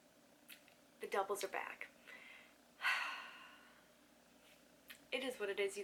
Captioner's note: sigh